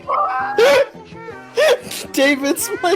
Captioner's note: gasping for air